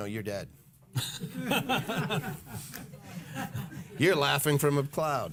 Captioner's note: laughing